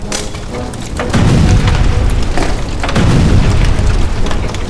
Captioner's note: explosion bangs